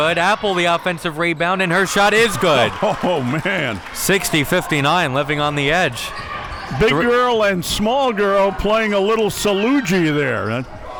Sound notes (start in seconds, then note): 1.6 audience cheering; 2.4 laughs